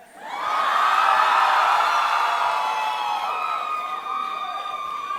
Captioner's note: audience cheering